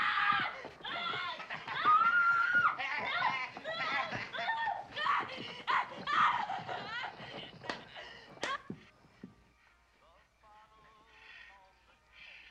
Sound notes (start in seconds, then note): 2.7 man laughs; 5.6 screams; 9.1 stops screaming